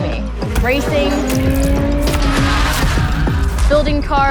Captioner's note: tires screeching